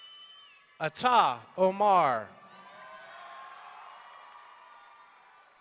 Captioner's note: audience cheering